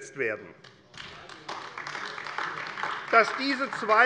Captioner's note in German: Beifall AfD